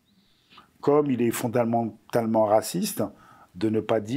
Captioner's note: non-english speech